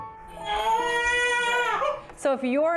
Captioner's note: baby crying